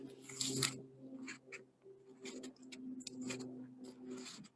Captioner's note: airplane droning